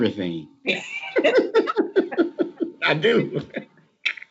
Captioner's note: laughter